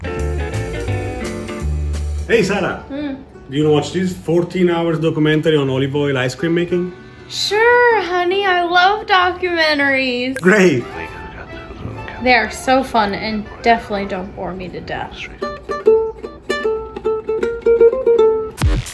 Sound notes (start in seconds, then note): 0.2 smooth music; 10.3 television chattering; 15.7 playing guitar; 18.7 upbeat music